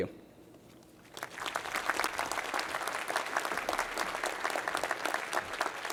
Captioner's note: applause